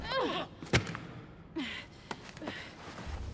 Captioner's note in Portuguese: respirando pesado